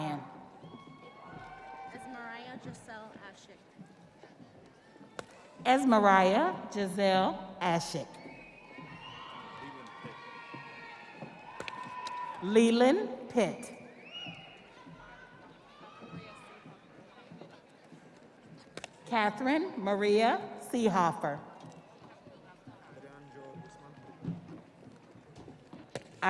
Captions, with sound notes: Melissa Policheque Ryan. Esmariah Jazelle Ashick. (audience applauding) (audience cheering) Leland Pitt. Catherine Maria Seehopher.